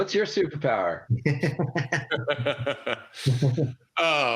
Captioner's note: laughter